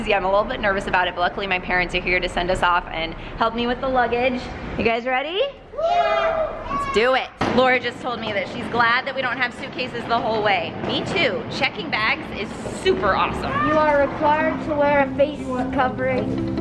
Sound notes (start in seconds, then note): 5.7 cheering; 13.8 lively music